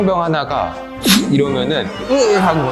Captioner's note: blow